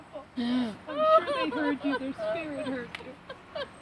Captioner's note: crying